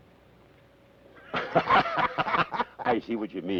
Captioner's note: both laugh